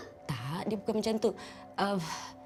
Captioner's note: in Bahasa Melayu